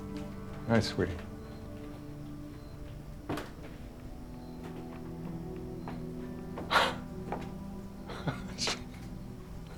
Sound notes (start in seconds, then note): 8.0 chuckles